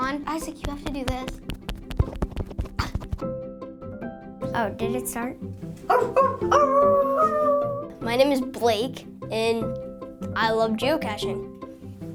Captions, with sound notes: Isaac, you have to do this. Oh, did it start? (howling) My name is Blake and I love geocaching.